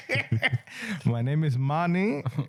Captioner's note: laughing